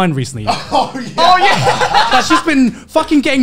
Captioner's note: laughing